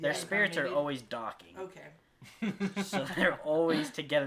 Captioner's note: laughs